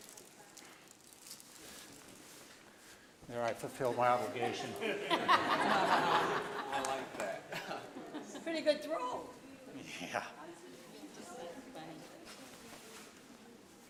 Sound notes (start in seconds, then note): 4.2 all laughing